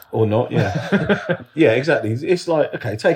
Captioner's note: laughs